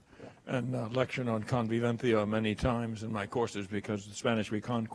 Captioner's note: speaking foreign language